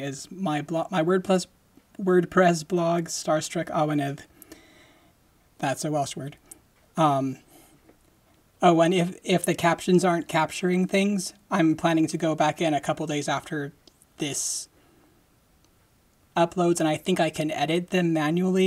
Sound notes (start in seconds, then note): none